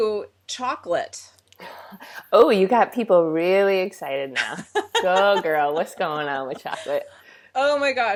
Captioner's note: laughs